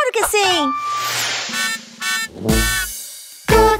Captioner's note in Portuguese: Sonido de bozina